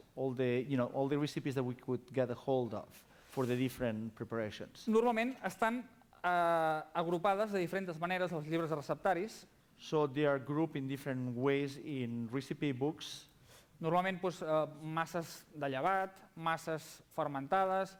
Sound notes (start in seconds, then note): 6.7 non-english speech; 15.3 non-english speech